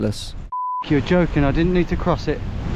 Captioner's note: beep